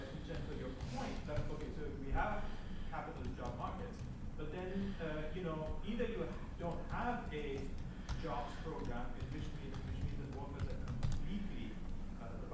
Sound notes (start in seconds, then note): none